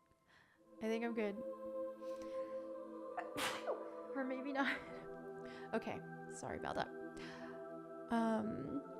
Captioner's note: sneezes